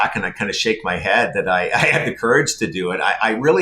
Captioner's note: laughing